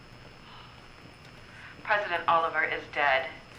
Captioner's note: sigh; woman: On radio